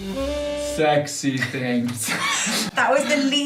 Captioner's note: laughter